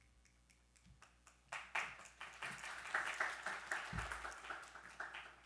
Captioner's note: attendees applauding